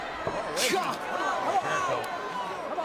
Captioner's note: Batista vocalizing